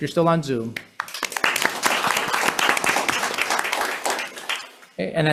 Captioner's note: members applauding